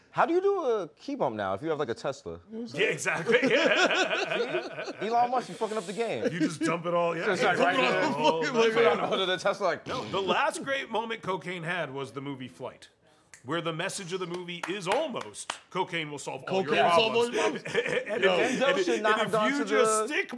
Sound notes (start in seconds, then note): 3.0 laughter; 10.3 snorting